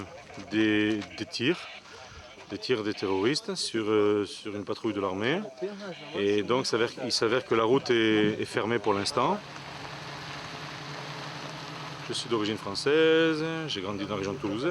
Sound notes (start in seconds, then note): 2.0 French spoken audio